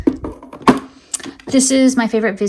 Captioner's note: item thudding